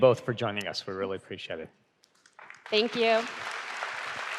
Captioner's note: applause